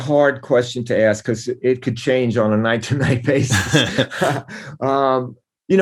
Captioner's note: laughter